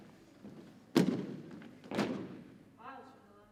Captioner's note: rhythmic thumping continues